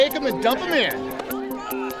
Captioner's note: indistinct chatter